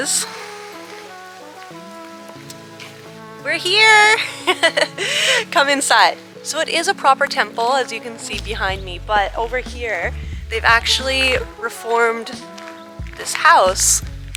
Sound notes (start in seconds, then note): 0.3 relaxed music; 4.0 giggles; 8.5 gentle upbeat music